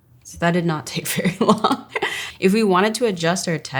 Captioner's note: laughs